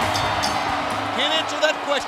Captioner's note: bell ringing